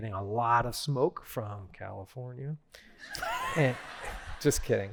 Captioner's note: laughter